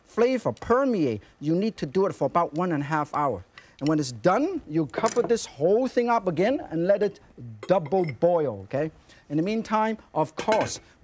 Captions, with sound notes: flavor permeate, you need to do it for about one and a half hour. And when it's done, (bowl clinks) you'll cover (bowl thuds softly) this whole thing up again and let it double boil, okay? (lid clinks softly) In the meantime, of course, (lid clinks)